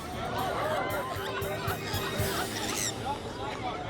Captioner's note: runners exclaim; bird squawking